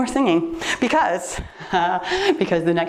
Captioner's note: laughs